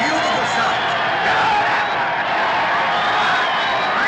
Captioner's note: cheering